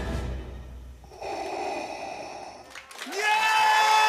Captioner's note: deep, labored breath; applause